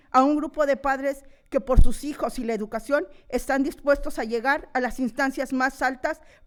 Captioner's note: continues speaking in foreign language